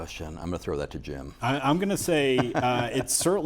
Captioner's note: laughing